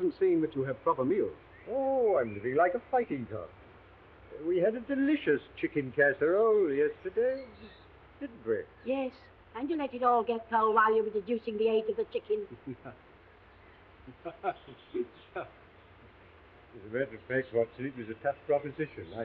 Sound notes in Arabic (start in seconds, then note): 12.3 واتسون يضحك